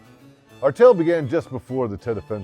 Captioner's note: voiceover